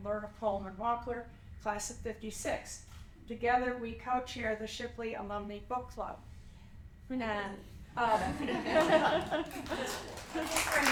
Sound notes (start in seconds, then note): 8.0 laughter